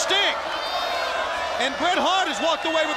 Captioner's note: crowd cheering